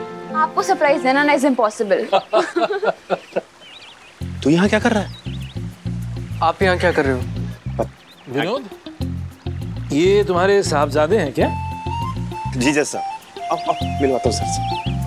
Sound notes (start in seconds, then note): 1.8 laughing